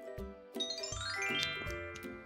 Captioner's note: magic chime